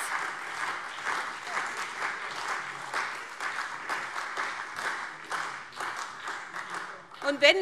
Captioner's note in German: Beifall SPD und vereinzelt Freie Demokraten